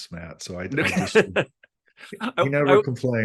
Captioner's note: laughs